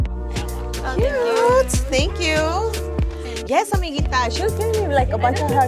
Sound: speaking Spanish

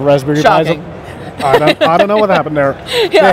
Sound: laughs

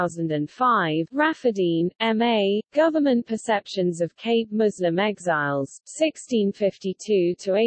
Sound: in German

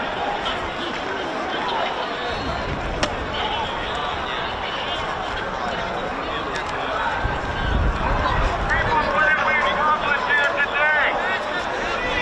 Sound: crowd noise

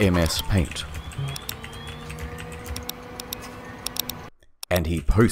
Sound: intense typing and clicking noises

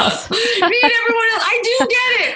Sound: laughs

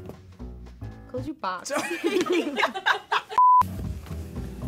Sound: laughs; upbeat music

